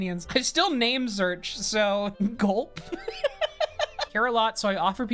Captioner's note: laughs